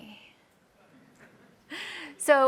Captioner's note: laughter